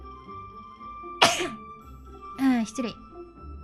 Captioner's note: sneezes